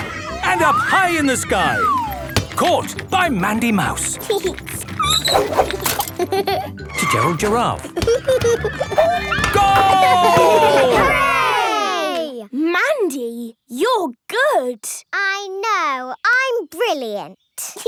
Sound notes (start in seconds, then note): 3.6 giggling and squeaking; 3.7 laughing; 6.0 laughter; 16.8 giggling